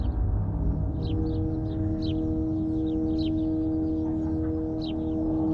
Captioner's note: birds chirping